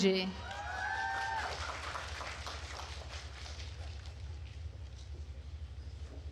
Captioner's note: attendees cheering and applauding